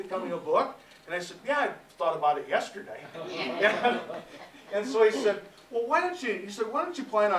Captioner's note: laughter